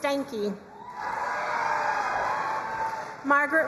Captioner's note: crowd cheering and applauding